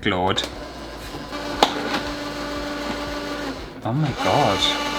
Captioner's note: machine Noises